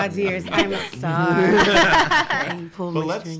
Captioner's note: laughing